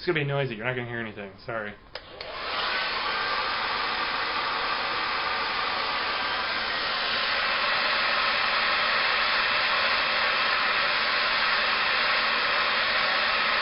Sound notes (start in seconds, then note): 1.9 hair dryer noise